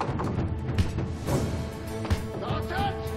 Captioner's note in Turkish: Kapı vurma sesi